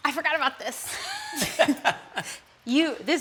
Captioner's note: laughter